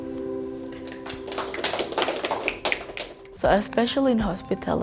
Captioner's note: people clapping